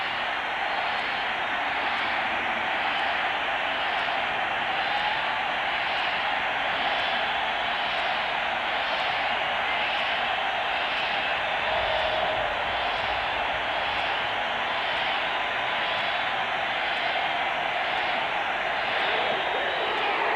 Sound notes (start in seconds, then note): 7.3 cheering